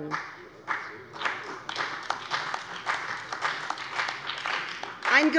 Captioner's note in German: Beifall bei der CDU und dem BÜNDNIS 90/DIE GRÜNEN